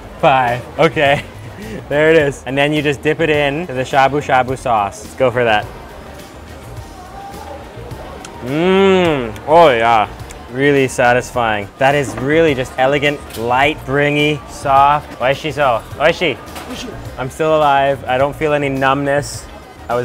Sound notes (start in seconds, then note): 15.5 speaking foreign language